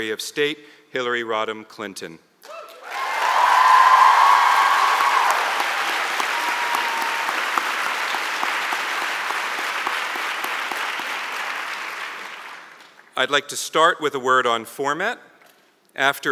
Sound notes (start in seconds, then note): 2.5 cheers and Applause